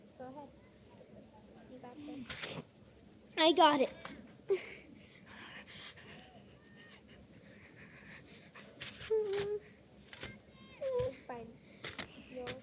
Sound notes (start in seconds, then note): 5.0 skier panting; 9.1 skier whimpers